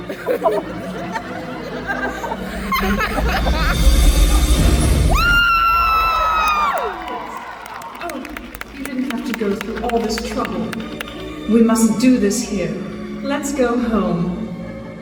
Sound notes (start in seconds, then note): 0.0 audience laughing; 4.1 audience cheering loudly